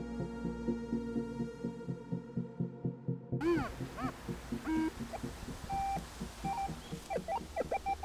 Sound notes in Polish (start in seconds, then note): 4.1 odgłosy wykrywacza metalu